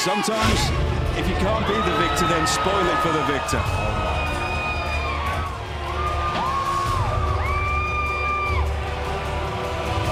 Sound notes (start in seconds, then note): 1.5 crowd cheering